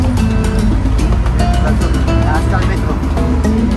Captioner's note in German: auf Spanisch